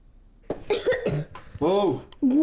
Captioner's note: Lily coughing